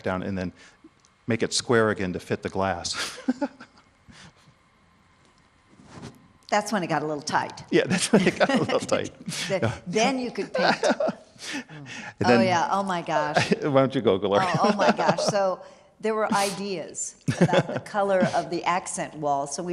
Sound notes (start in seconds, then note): 10.4 laughing